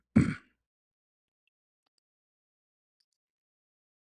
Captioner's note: berdehem